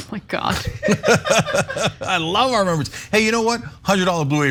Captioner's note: laugh